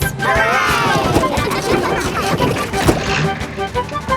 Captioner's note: giggling